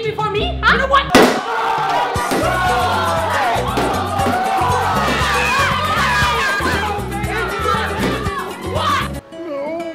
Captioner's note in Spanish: chicos gritando y chicas amimando